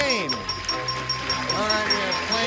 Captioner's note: applause